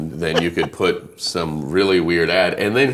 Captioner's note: laughing